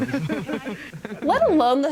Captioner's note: laughing